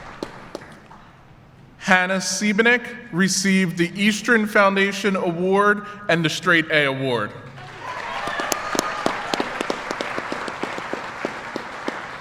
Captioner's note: applause